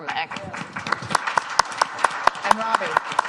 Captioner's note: applause